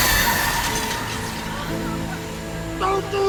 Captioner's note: lasers searing; people screaming